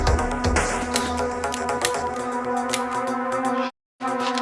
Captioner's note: clicks empty